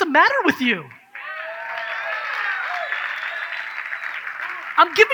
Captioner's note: audience cheers